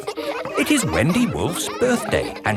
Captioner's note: kids laughing